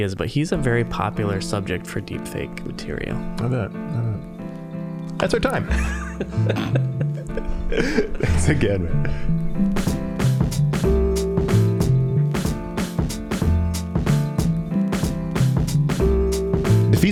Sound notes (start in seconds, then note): 5.6 all laughing; 9.6 mellow, funky piano music